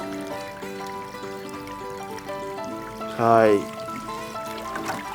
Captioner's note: laughs